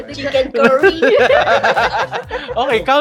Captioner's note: laughs